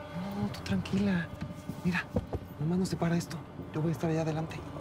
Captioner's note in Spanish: golpes